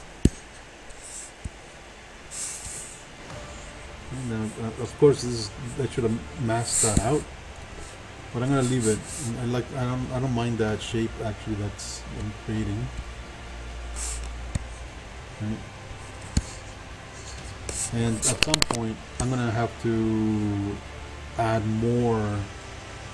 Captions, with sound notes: (computer mouse tapping) (faint techno music) Now of course, that should've Mask that out. But I'm gonna leave it. I don't mind that shape, actually, that it's creating. Right. (computer mouse tapping) (faint techno music) And at some point I'm gonna have to add more detail.